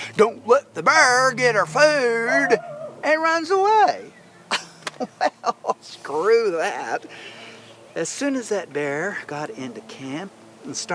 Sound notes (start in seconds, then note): 4.5 chuckles